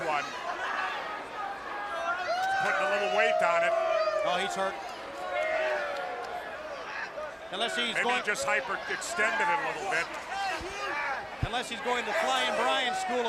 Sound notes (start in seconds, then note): 2.0 crowd chatter; 6.7 crowd chatter